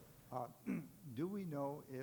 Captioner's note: chuckling